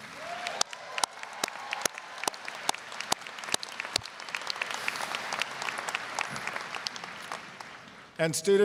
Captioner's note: applause, cheering